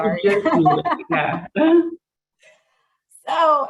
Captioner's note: laughs